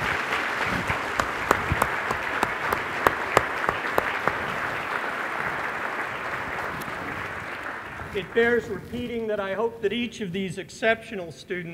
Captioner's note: applause